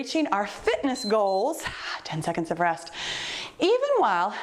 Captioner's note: timer beeps